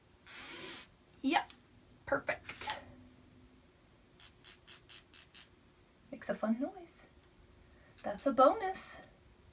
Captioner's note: chalk wheel noise